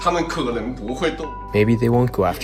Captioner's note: speaking foreign language